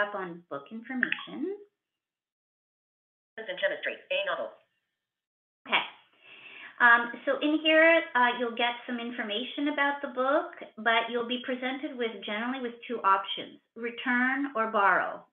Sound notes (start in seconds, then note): 3.4 VoiceOver voice